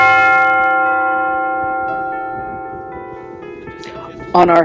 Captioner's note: loud gong ringing